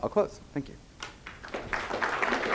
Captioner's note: applause